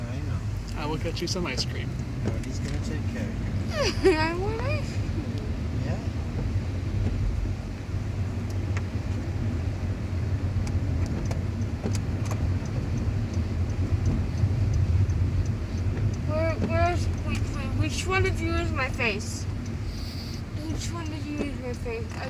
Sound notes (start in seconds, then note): 6.6 turn signal